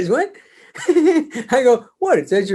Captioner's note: David laughs